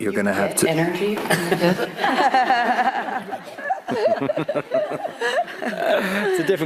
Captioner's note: laughter